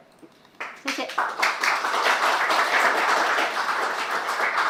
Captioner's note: applause